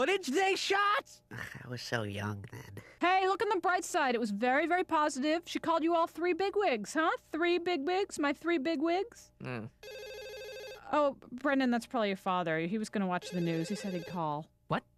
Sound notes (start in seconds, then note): 9.5 grunts, phone rings